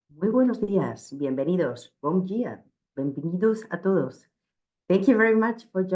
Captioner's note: speaking Spanish